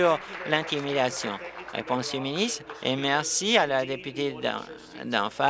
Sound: applause

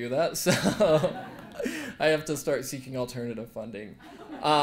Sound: laugh; laugh

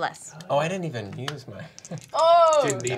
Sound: chuckles

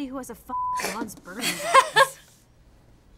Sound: laugh

